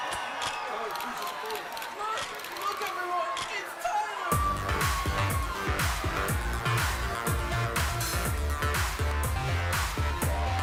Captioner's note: crowd chatter